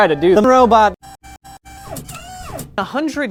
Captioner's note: robot noises